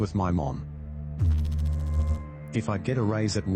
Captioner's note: electrical noise